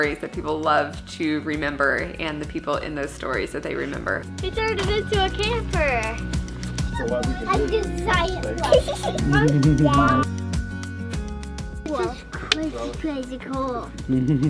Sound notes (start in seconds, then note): 8.4 little girl giggles; 9.5 lively music